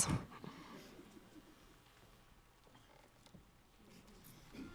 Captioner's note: announcer chuckles